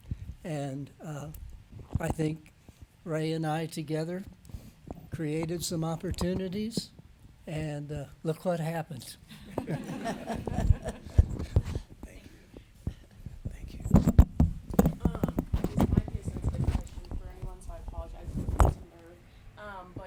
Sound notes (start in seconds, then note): 9.3 audience laughing